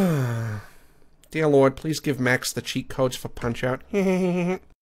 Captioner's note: sighs; Imitating Peter Griffin; Imitates Peter Griffin's laugh